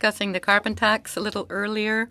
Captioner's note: speaking French